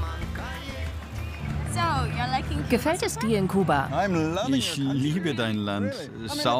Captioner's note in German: englisch